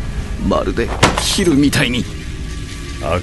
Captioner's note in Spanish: Cris golpea la mesa; sonidos eléctricos